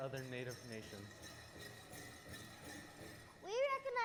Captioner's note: bells jingling